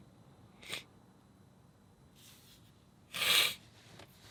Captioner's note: sniffling